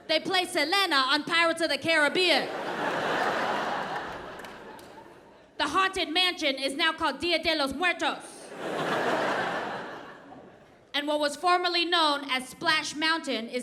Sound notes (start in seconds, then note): 2.4 audience laughs; 8.5 audience laughs